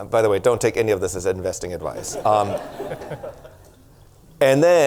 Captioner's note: audience laughter